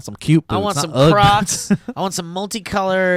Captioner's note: laughs